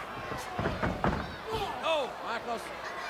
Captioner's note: feet thudding